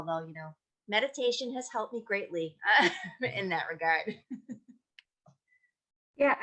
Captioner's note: laughs